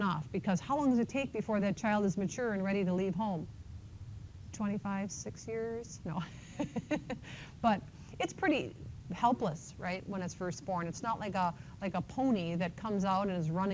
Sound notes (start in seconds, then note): 6.2 laughter